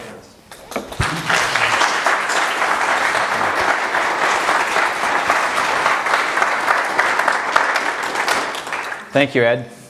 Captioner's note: audience applause